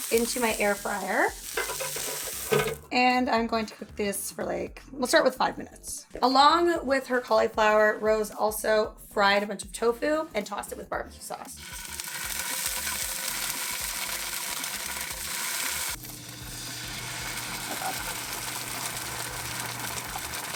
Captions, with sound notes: into my Air Fryer, and I'm going to cook this for like, we'll start with five minutes. Along with her cauliflower, Rose also fried a bunch of tofu and tossed it with barbecue sauce. (pan sizzling)